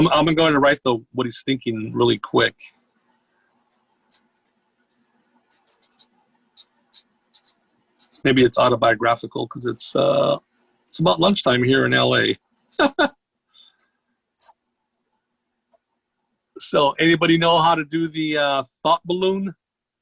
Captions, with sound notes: I'm gonna write though what he's thinking really quick, maybe it's autobiographical 'cause it's about lunchtime here in LA(laughs) So anybody know how to do the thought balloon?